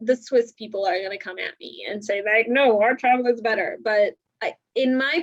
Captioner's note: in deep voice